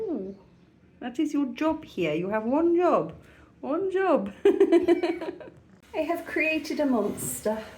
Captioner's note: laughing